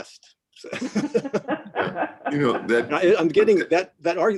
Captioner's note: laughing